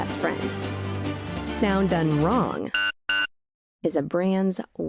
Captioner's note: chip reader sound